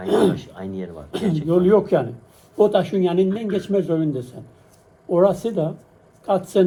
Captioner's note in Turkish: boğazını temizler